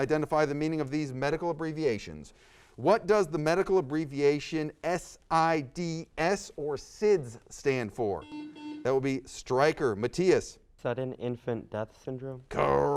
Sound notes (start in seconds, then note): 8.2 buzzer sounds